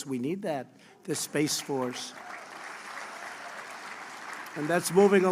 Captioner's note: applause